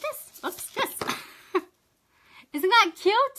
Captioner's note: laughs